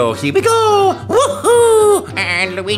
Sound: as Mario

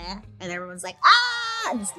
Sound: crowd cheering

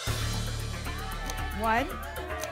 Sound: audience shouting numbers

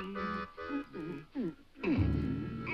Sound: Dunderklumpen thumps

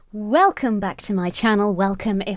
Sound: none

